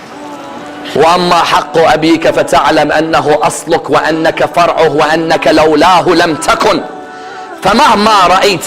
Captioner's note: in Arabic